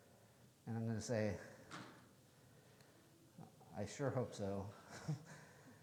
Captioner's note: chuckles